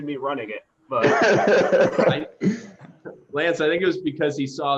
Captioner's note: laughter